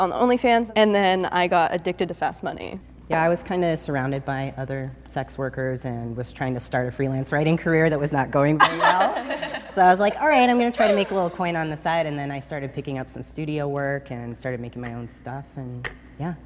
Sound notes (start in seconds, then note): 8.6 laughter